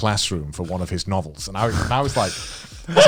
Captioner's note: laughs